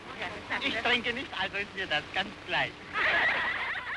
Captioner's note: unintelligible accent; laughter